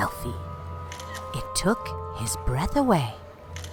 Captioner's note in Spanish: clics del obturador de la cámara